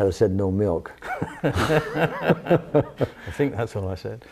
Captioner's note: laughs